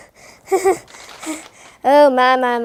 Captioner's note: nervous laughter